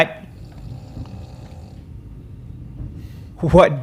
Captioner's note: snoring